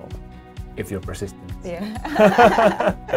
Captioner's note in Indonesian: keduanya tertawa